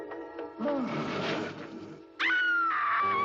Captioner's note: growling; Mary screams